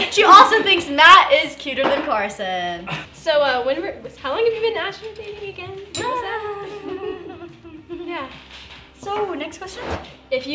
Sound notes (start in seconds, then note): 6.4 laughing